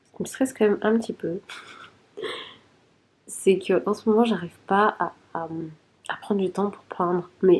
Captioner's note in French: rires